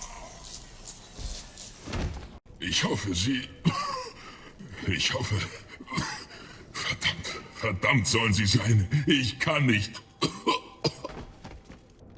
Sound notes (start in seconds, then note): 3.5 cough; 9.9 cough